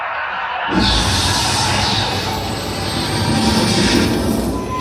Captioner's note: window exploding